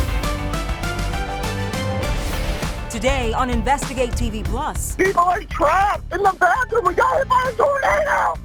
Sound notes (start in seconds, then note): 0.5 upbeat music; 4.9 voiceover